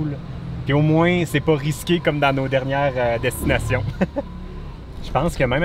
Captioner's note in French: Rire